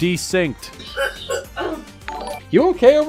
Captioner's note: coughing